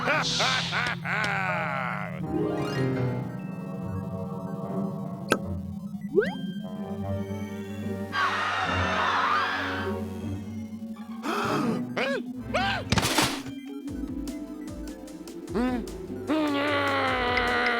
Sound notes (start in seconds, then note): 0.0 laughing; 8.1 screaming; 11.2 gasps; 16.2 grumbles